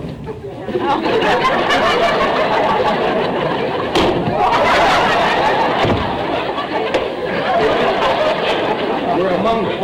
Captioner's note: audience laughter